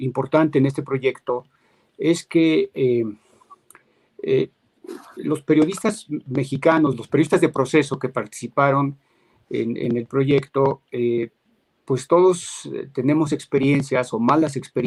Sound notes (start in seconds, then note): 2.5 speaking in Spanish